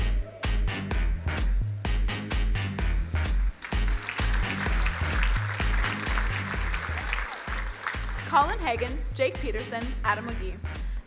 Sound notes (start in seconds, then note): 0.2 bouncy music; 3.4 crowd applauding